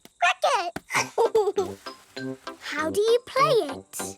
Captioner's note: giggles